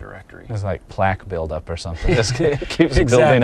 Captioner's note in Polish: śmiech